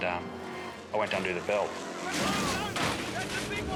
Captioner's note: car crashing